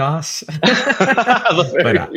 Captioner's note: laugh